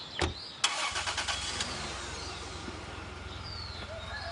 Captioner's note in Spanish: Ruido del motor del auto